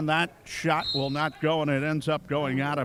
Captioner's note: referee whistling